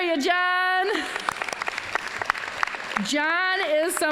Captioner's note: applause